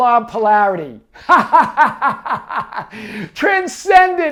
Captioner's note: laughs